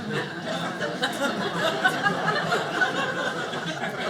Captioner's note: audience laughing